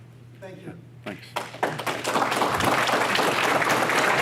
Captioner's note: audience Applause